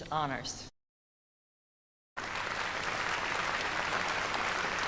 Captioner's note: applause